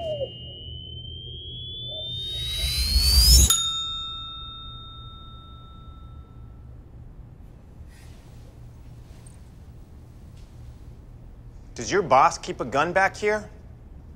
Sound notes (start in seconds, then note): 2.8 bell rings